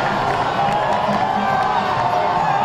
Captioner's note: cheering